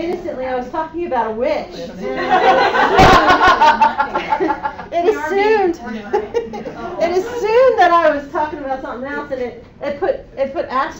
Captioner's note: laughter